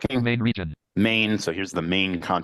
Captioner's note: computer voice